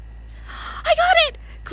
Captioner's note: gasps